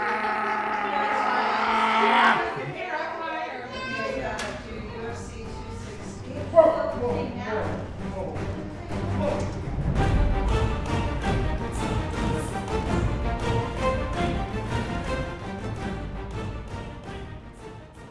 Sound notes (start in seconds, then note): 3.0 chatter; 4.3 dramatic theme music